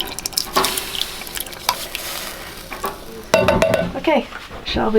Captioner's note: pan sizzling